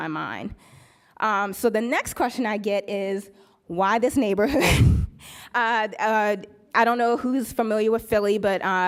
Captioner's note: laughs